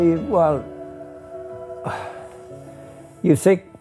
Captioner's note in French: soupire